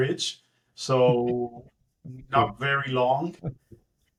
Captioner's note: laugh